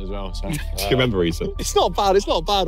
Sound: laughs

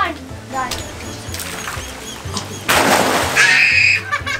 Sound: splash; laughing

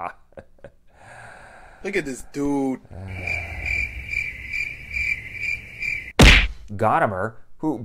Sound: cricket sounds

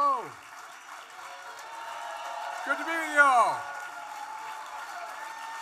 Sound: applause

